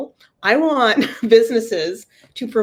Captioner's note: laugh